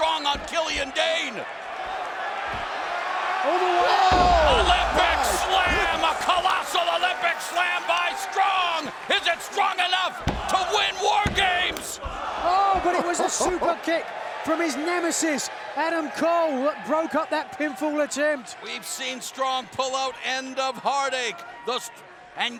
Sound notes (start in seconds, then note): 1.9 fans chattering; 3.6 fans cheering